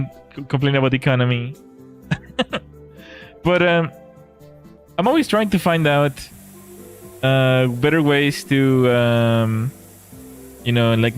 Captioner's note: laughter